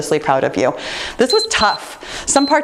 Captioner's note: timer beeps